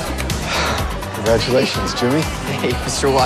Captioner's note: sighs